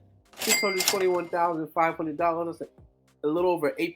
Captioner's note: cashier register ka-chings